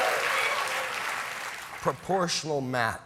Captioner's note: cheers and applause